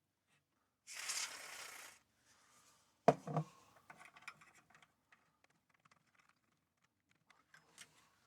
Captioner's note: typing